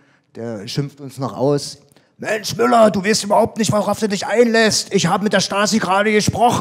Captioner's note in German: schreiend